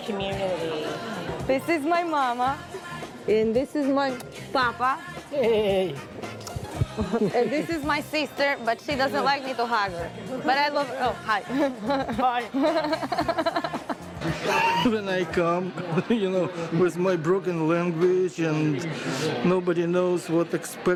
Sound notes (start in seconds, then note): 11.5 laughter